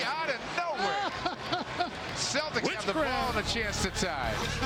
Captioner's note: laughter